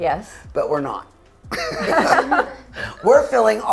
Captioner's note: laughs